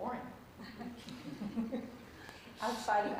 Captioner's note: laughter